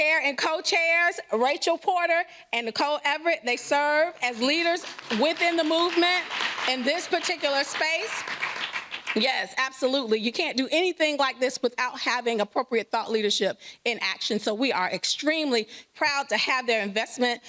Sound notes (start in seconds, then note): 9.3 applause